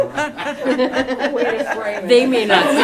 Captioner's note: laughter